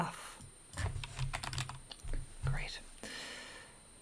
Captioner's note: keyboard keys clank